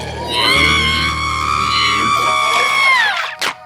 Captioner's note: Linda screams